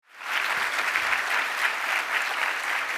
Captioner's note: applause